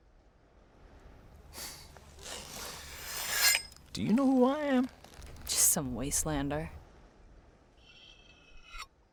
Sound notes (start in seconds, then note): 2.2 blade sharpening